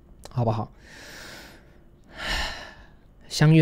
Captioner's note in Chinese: 吸氣